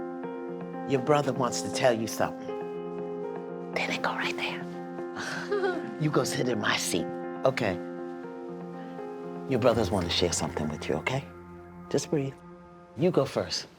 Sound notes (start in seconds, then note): 4.6 laughs nervously